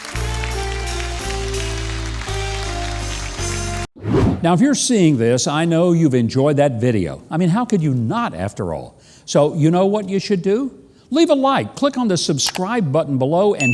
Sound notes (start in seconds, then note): 0.0 audience applauding; 0.0 smooth music; 3.9 graphic swooshes